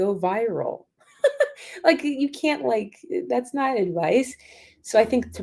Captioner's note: laughter